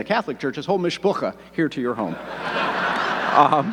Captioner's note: speaks foreign language; audience laughing